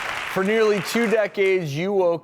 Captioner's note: audience applauds